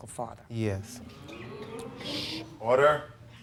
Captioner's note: audience oohing